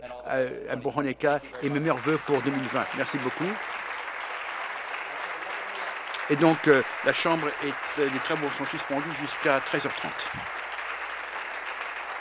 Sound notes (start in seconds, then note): 7.8 applause